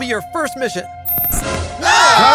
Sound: door slammed; screams

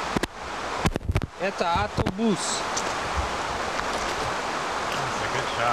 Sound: non-english

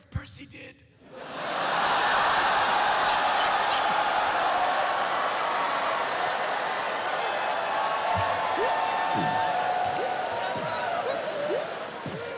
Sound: laughter

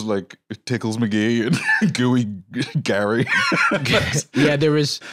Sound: laughs

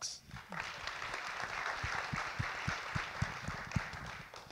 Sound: audience clap

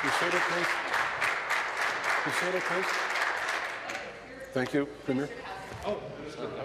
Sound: applause

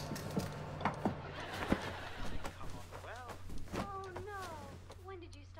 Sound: sitcom playing distantly

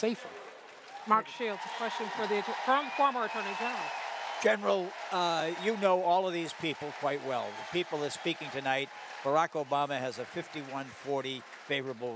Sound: cheers & applause

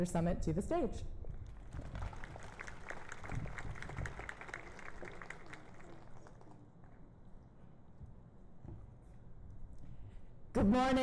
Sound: applause

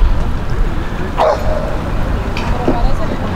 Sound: Scruffy barking

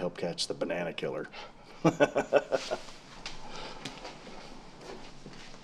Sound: Sanders chuckles

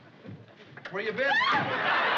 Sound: scream

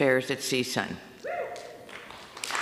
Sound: applause

